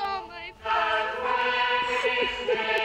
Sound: crying

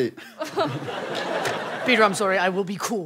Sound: laughing

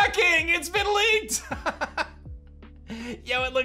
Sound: laughs

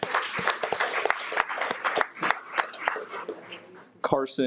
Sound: audience applauds

